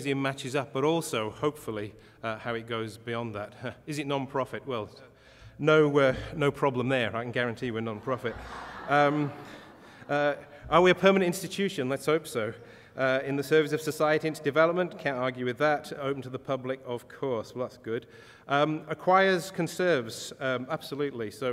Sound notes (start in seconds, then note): 7.9 audience laughter